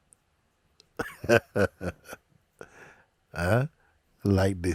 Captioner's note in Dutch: Mooji lacht